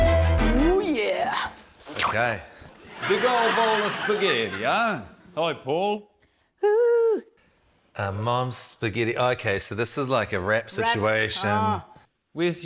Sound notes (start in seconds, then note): 1.7 slurps